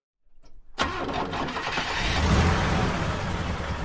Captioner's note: car starts